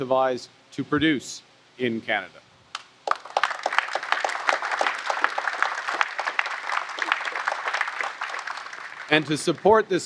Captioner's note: applause